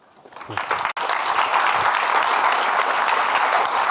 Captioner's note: audience clapping